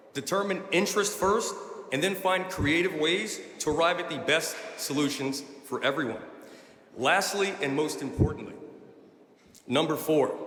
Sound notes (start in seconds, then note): none